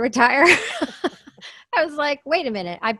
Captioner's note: laughs